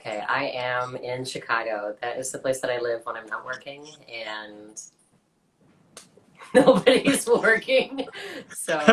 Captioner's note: laughs